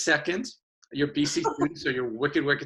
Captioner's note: laughs